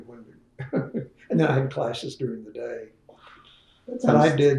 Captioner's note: laughs